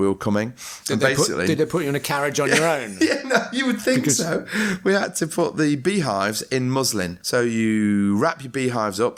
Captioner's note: laughter